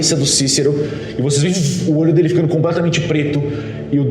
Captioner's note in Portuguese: vuum